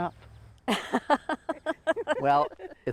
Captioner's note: laughing